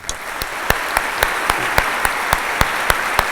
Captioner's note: applause